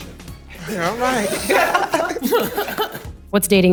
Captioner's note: participants laughing